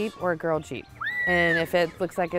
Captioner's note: little girl screams